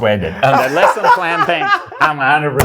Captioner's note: laughing